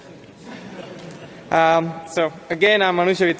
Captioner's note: audience laughs